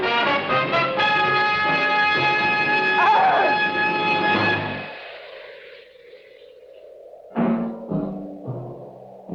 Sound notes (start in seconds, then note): 2.9 screaming